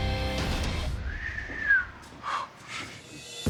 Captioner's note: whistles